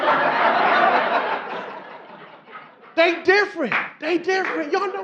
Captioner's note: audience laughing